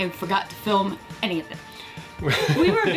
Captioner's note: laughing